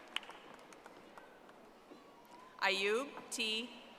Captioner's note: audience applauding